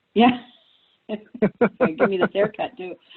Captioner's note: both laughs